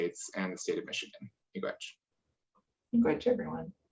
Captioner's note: speaking in foreign language